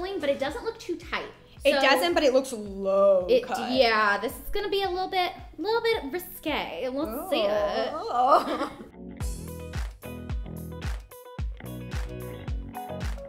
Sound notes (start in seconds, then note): 7.1 moaning; 9.2 cheerful music